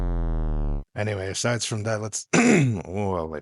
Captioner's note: raspy voice and clears throat